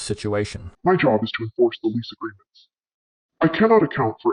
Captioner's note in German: verzerrt